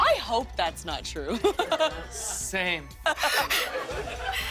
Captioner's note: laughter